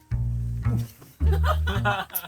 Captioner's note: urgh